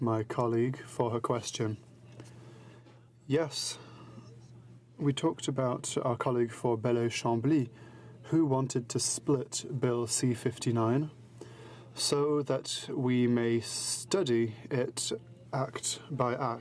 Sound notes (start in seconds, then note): 4.2 speaking in french